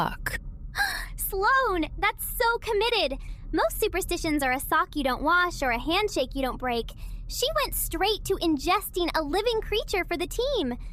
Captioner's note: gasp